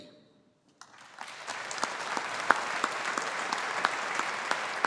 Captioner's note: audience applauding